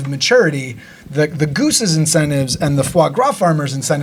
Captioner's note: speaking foreign language